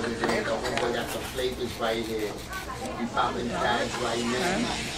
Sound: background chatter

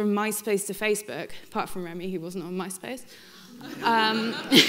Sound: laughs

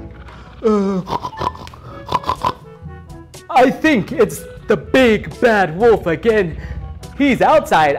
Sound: pig snorts

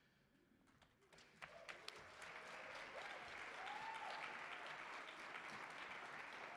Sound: audience cheering and applauding

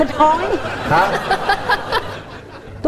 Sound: laugh

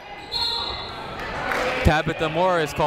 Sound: whistle tweeting

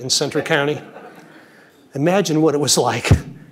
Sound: audience chuckles

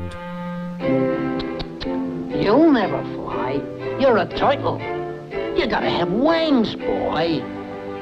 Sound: tuts

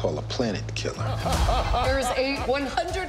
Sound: laughing

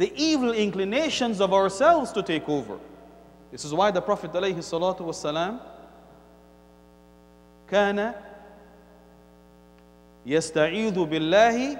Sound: Arabic

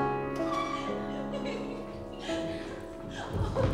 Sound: girls giggling

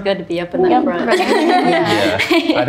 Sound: everyone laughs

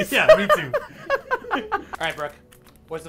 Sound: laughs

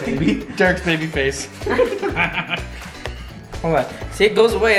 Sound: laughs

